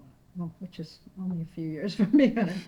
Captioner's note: laughing